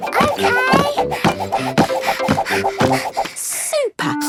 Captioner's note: panting